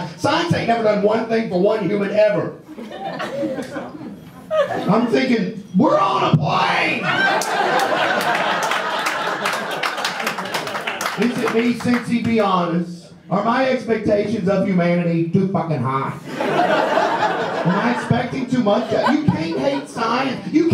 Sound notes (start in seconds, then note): 6.5 shouts; 7.0 audience laughs and claps; 16.2 audience laughs